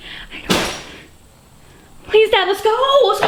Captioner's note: something heavy hits the floor